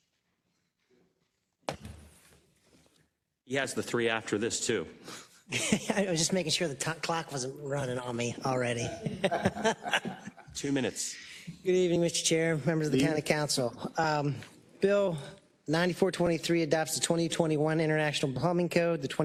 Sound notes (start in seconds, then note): 5.4 laugh